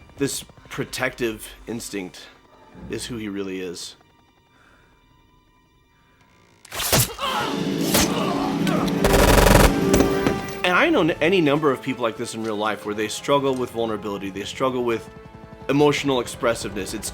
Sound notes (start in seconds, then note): 9.0 rapid gunfire